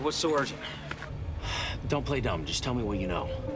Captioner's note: sighs